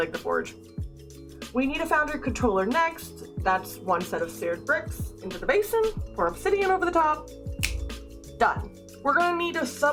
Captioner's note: snap